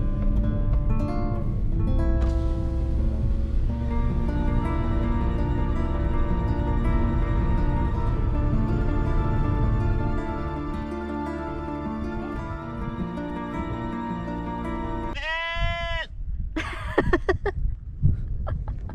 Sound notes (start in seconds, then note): 15.1 sheep bleating loudly; 16.6 laughing